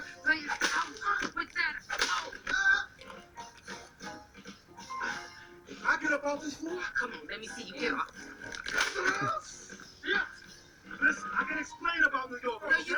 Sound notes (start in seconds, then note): 2.0 whipping sounds; 8.6 more whipping sounds; 8.6 man screaming in pain